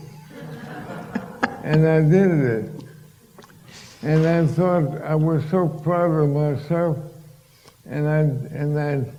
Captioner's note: laughter